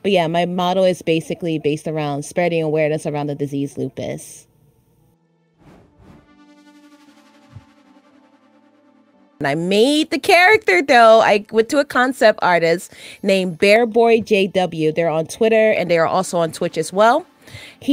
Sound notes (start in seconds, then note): none